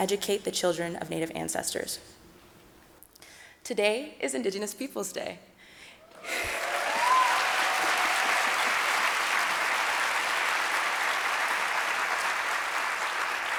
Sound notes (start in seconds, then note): 6.0 audience applauding